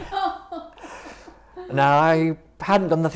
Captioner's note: interviewer laughs